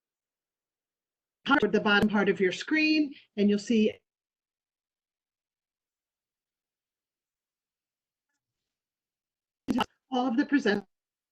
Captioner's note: audio loss